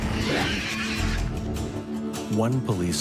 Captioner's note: woman growling; woman shrieking